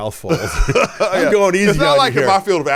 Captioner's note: laughs